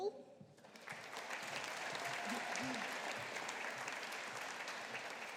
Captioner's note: audience applauding